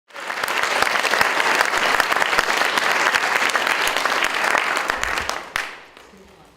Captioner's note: audience Applauding